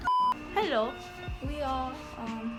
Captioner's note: in a weird Korean accent